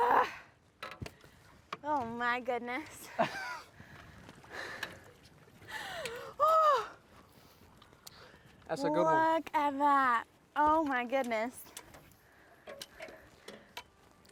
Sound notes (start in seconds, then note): 3.4 laughs